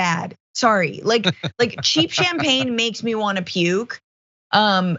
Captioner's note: laugh